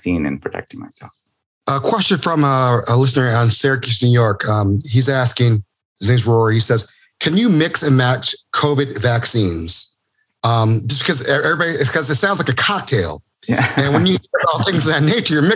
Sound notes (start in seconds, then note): 13.5 laughing